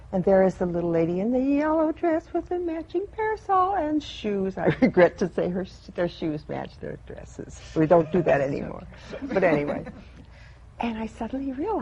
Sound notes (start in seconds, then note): 9.0 laughter